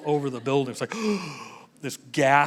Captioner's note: gasp